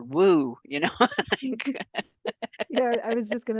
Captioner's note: laughs